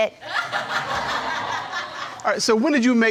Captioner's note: crowd laughing